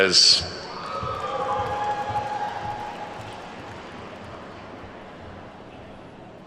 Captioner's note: attendees whooping and clapping